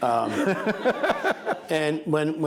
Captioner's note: laughing